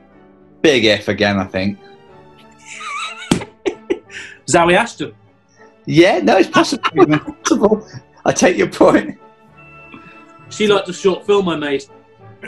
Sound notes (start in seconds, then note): 2.6 giggles; 6.4 laughter